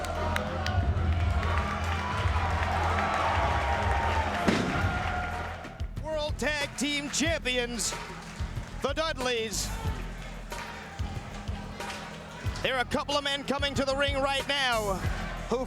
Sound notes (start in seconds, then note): 0.0 crowd cheering; 0.6 rock music